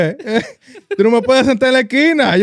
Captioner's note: speaking In Foreign Language